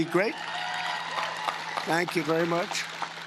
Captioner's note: cheering and Applause